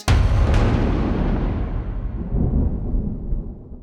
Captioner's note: thunder